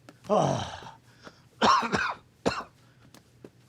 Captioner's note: coughing